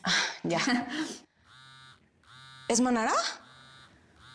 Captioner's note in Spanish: Vibra el celular